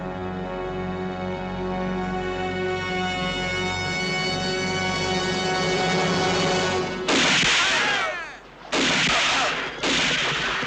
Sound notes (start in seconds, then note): 6.9 gun firing